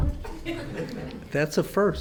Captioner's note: audience laughs